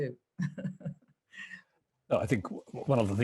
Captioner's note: laughs